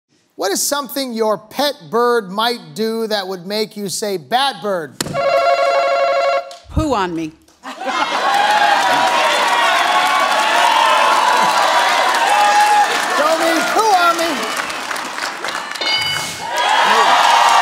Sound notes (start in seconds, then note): 5.1 answer button rings; 7.5 laughter, applause; 15.8 bell dings